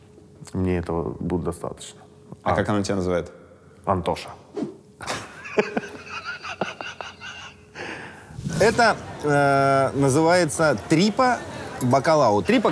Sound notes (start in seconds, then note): 5.0 both laugh